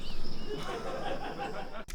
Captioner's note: laughs